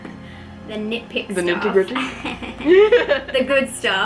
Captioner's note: laughs